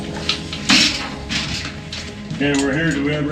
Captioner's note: cage door rattles